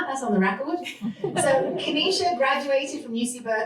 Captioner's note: laughter